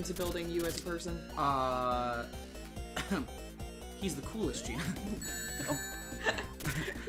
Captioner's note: coughs; both laughing